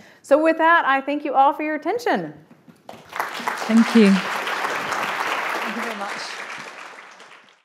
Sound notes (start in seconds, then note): 2.9 audience applauding